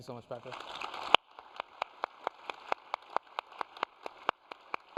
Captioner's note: applause